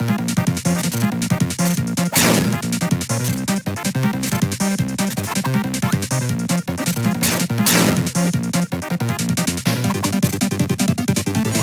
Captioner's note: sword Spin